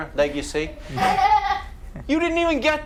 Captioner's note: laughing